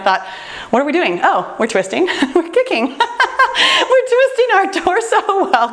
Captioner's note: laughs